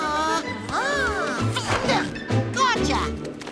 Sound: grunting

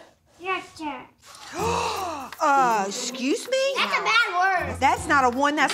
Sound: gasps

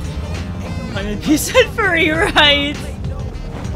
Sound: laughter

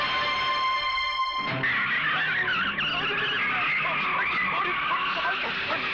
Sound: tires Screeching

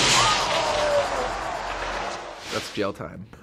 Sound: crowd gasps

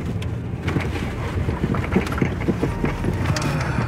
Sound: tires rumbling

